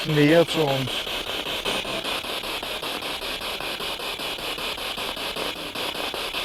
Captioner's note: noise of the spiritbox in the background